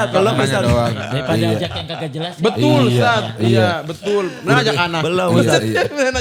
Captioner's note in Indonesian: tertawa